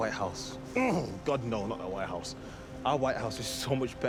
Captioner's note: groans